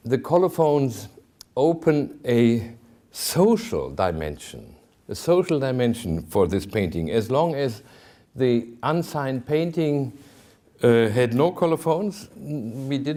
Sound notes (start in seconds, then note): none